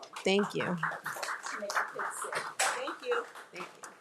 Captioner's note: crowd applauding